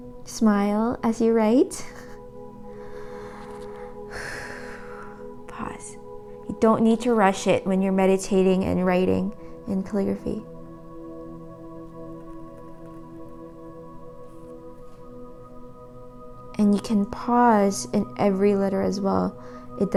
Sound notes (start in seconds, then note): 4.5 exhales deeply; 10.9 tranquil music